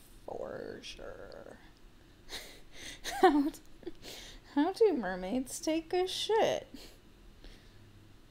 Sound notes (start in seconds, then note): 3.0 laughing